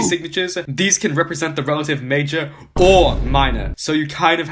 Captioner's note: boo; boom